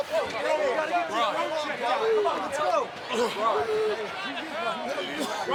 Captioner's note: overlapping chatter